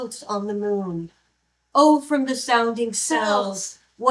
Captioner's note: none